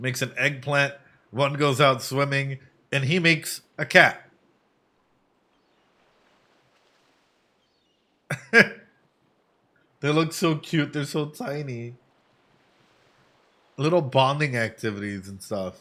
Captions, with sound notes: Makes an eggplant, one goes out swimming, and he makes a cat. [Laughs] They look so cute, they're so tiny. Little bonding activities and stuff.